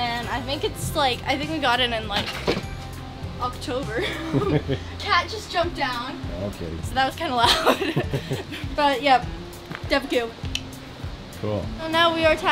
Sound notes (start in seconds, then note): 2.1 clanking; 4.0 laughing